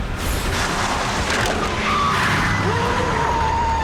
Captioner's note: tires screeching